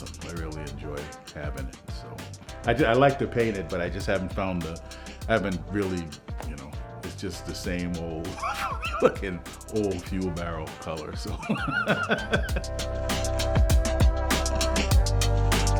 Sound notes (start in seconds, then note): 11.3 laughs; 13.1 upbeat music